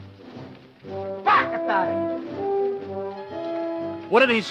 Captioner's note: speaking foreign language